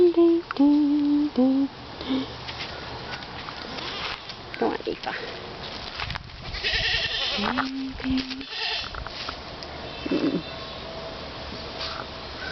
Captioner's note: humming